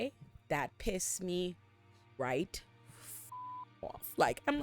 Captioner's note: beep